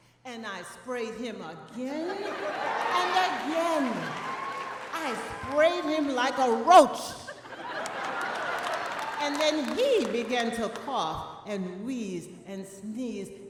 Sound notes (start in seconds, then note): 2.4 audience applauding; 7.2 audience laughing